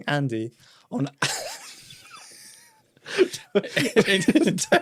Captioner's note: both laughing